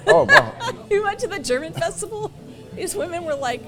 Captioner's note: laughs